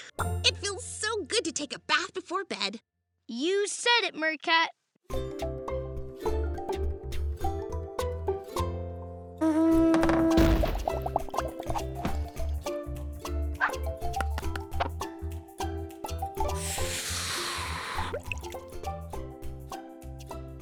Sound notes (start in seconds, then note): 9.4 horn honks